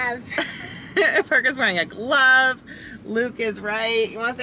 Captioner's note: laugh